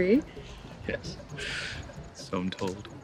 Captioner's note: laughs